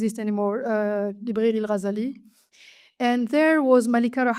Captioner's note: speaks French